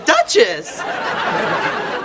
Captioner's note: laughing